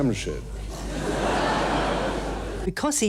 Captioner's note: audience laughing